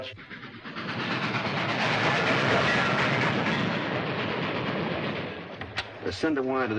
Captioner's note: train roars past